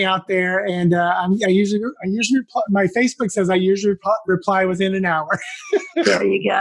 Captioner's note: laugh